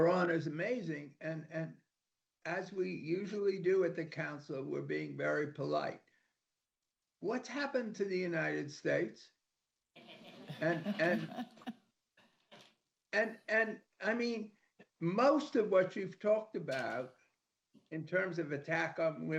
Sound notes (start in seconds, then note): 10.2 laughter